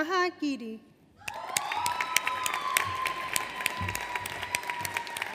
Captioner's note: audience applauds